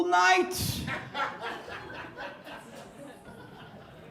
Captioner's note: audience laughs